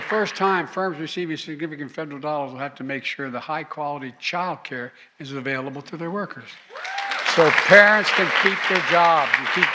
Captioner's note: applause